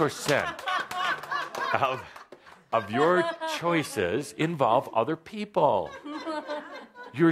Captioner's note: laughter